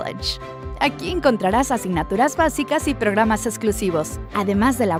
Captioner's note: announcer speaking Spanish